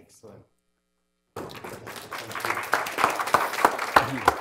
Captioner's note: applause